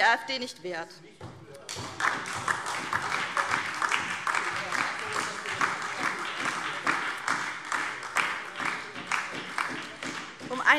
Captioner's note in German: Beifall SPD, BÜNDNIS 90/DIE GRÜNEN und DIE LINKE